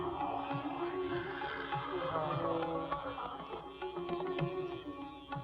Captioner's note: gasping Continues